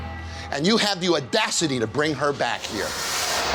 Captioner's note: none